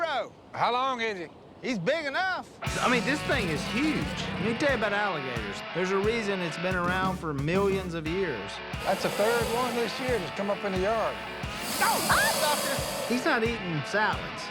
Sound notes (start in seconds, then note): 11.5 screams